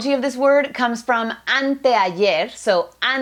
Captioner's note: speaks in foreign language